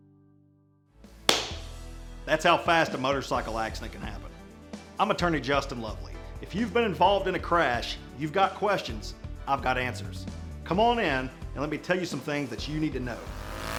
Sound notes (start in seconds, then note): 1.3 hand clap; 12.7 engine revving